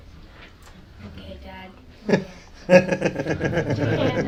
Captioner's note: laughter; dad's nervous laughter